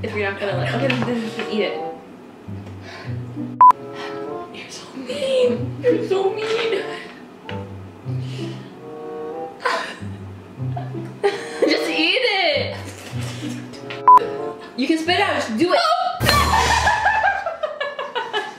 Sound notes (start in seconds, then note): 3.6 beeps; 10.6 laughs; 14.0 beeps; 16.3 laughs